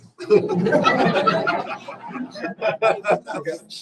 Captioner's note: laughter